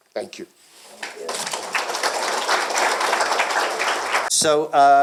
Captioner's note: applause